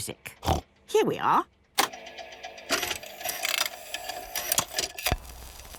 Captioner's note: clicks, whirring